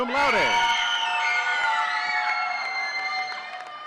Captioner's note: audience cheering